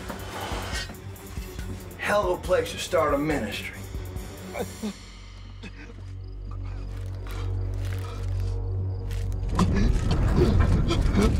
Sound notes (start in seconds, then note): 4.8 grunting